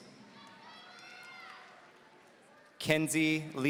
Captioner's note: audience cheering